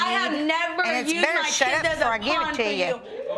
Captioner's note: audience react